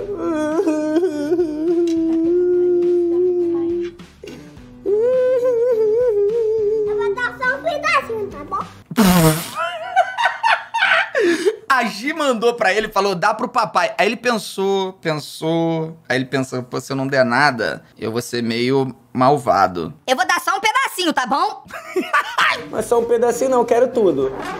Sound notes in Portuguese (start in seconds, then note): 0.0 chorando; 1.6 sussurrando; 4.8 chorando